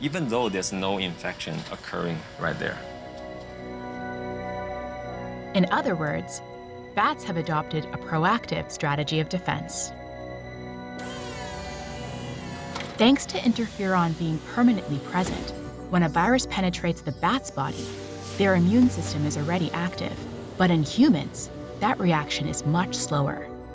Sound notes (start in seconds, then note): 11.0 whirring